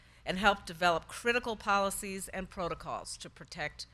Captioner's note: none